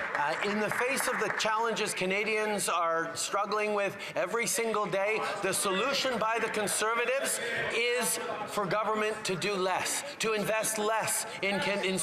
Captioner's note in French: voix de l'interprète